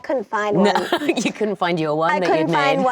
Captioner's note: laughing